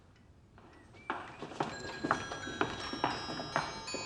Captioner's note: chimes ring